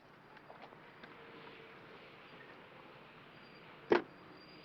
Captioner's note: vehicle approaching